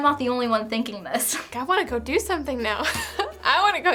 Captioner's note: laughs